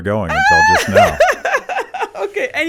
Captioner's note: laughs